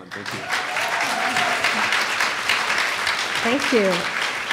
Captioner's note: audience applauds